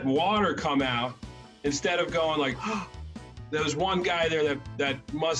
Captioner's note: gasp!